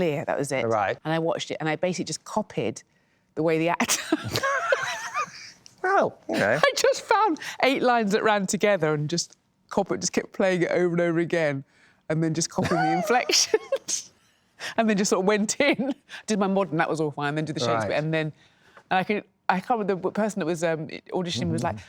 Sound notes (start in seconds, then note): 4.1 laughs